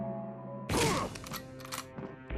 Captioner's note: grunting; gun cocking